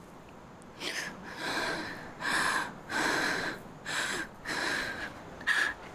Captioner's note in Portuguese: luiza suspirando